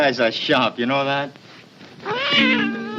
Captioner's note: cat meows